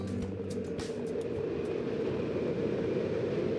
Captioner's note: wind rushing